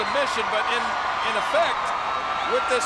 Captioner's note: spectators cheering